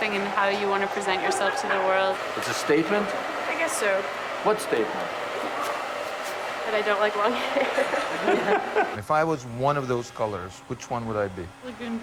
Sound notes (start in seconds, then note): 7.3 laughing